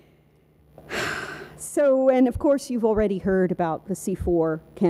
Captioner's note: exhales